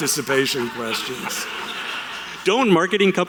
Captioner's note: audience laughter